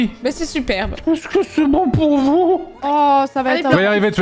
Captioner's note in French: chevrotant